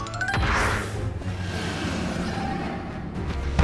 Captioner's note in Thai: เสียงกรีดร้อง